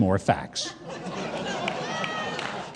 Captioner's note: crowd laughing and clapping